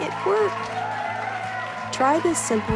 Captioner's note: audience applauds and cheers